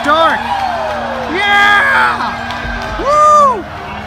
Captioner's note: cheering continues